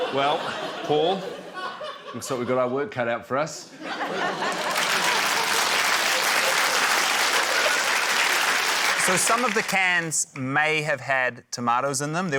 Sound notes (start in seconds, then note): 3.8 laughter, applause